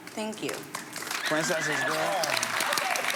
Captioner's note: applauding